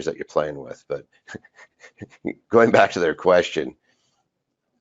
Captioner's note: laughs